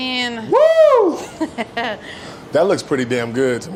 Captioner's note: laughs